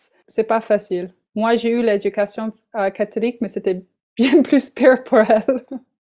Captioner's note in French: rires